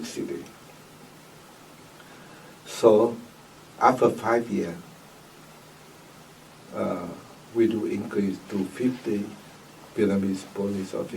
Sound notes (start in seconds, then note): none